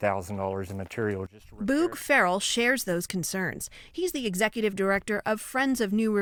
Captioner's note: voice-over